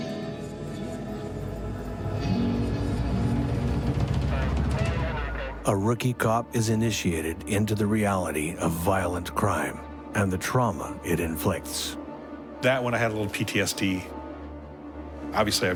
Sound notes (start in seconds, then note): 0.3 dramatic music; 4.5 police radio chatter